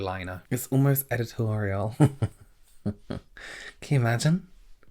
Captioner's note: laughs